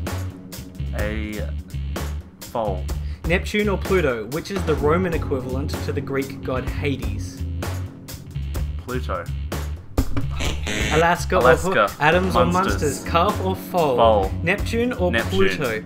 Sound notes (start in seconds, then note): 10.4 buzzer